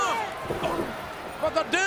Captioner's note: body thuds